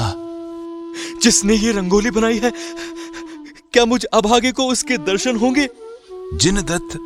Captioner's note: crying